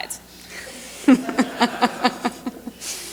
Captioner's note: laughter